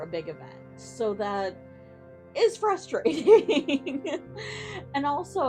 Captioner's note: giggles